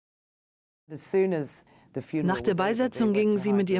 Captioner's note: voiceover